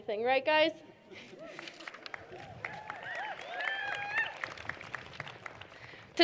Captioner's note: cheering